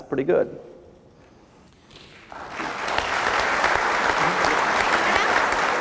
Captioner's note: applause